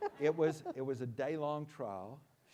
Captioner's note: laughs